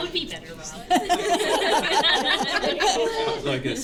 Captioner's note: laughter